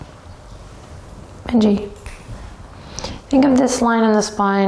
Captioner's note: snaps